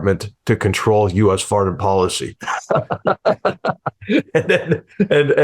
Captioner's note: laughs